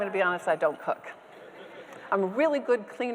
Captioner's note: audience members laughing